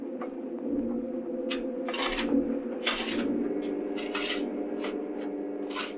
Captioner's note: shovels scraping